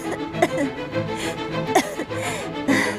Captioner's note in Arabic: سعال